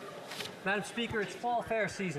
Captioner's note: speaking French